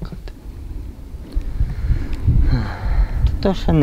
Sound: sighs

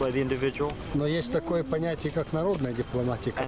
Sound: speaking russian

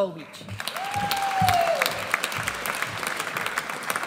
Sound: audience applauds

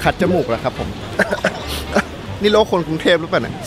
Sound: coughing continues

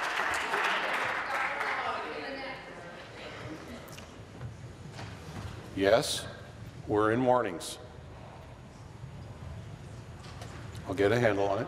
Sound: applause

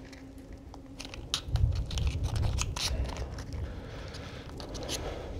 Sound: matchbox fumbles

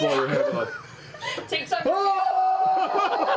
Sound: yells; laughter

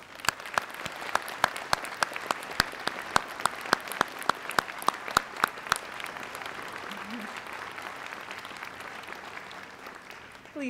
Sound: applause

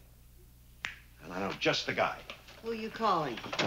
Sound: snaps fingers

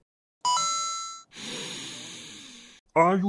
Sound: inhales

